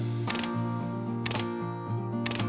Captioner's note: camera shutter